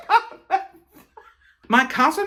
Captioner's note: laughing